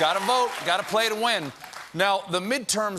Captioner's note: cheers and applause